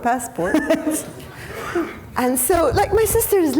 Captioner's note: audience members laughing